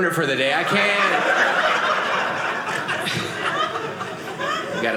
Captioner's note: audience laughing